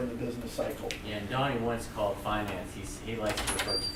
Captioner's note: voiceover